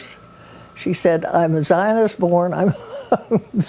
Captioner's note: laughs